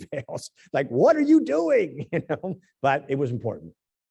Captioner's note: laugh